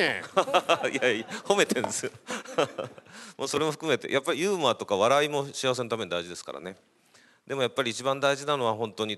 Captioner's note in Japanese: 笑い